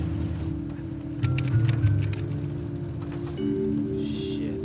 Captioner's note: clicking